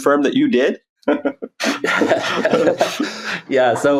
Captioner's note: both laughs